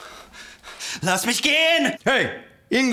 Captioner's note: officer yelling in German